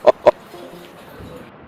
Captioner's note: phone cuts